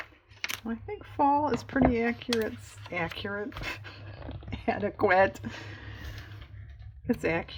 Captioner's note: laughs